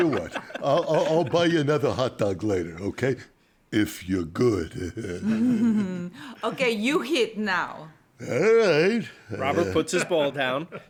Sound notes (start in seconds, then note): 4.5 laughs